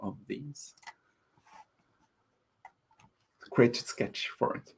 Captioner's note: keyboard clicking